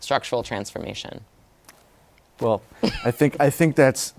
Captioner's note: laughs